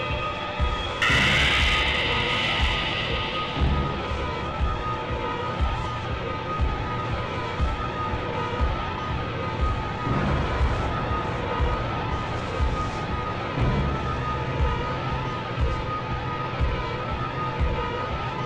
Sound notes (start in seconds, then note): 1.4 electrical whirring; 4.8 suspenseful music